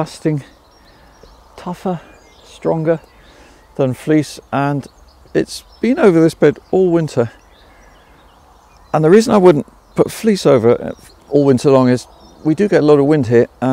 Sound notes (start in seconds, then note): 7.3 birds chirping